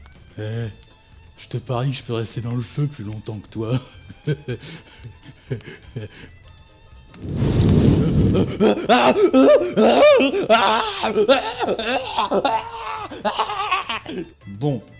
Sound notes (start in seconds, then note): 8.6 cries of pain